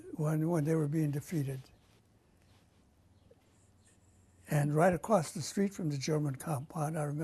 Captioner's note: pauses for 3 seconds